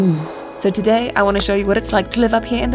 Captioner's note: person breathing